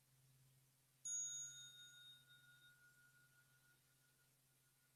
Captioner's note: light bell